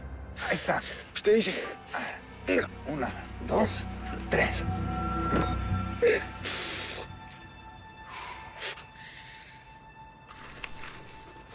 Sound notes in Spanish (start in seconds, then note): 5.7 Soplidos